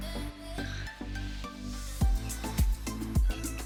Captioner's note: vodka pouring